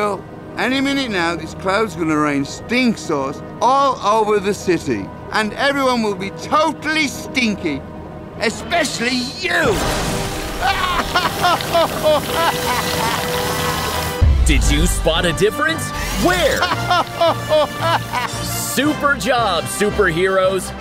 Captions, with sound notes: Any minute now, this cloud's gonna rain stink sauce all over the city, and everyone will be totally stinky, especially you. [laughing] Did you spot a difference? Where? [laughing] Super job, superheroes.